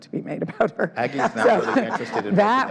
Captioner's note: all laugh